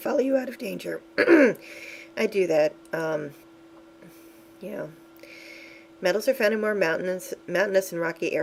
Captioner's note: clearing throat